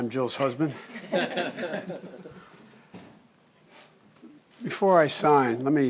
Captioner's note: laughter